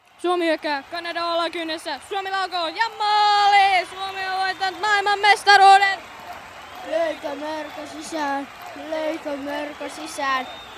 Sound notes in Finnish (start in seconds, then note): 5.8 yleisö hurraa